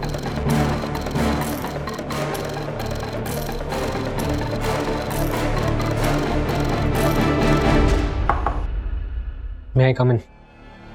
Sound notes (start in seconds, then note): 8.2 knocks on door